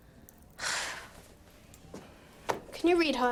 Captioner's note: sighs